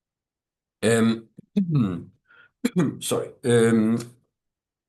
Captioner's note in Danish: coughs